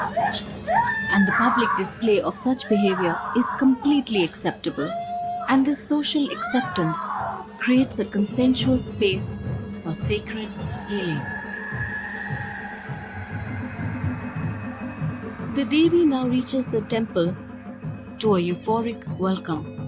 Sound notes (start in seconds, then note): 11.3 bells jingling; 11.3 intense drumbeats